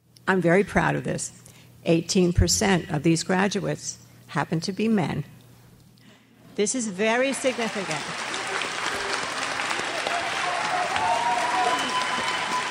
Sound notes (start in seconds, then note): 7.2 crowd applauds